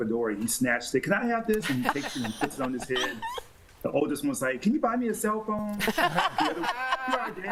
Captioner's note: laughter